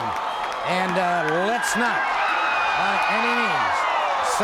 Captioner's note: crowd cheers